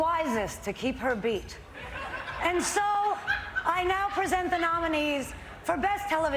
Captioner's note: laughter